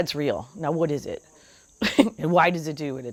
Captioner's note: chuckles